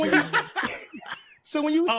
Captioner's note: laughter